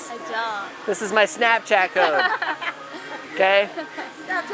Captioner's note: laughter